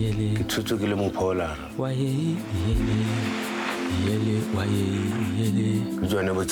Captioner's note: speakers speaking in foreign language